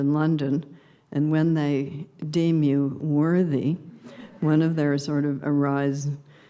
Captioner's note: subdued laughter